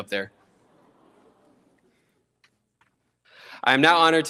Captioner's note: audience exclaims